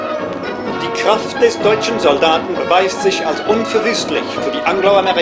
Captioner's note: speaking foreign language